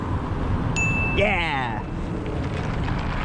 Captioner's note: ding